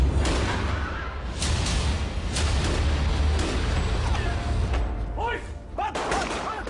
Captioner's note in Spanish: Disparos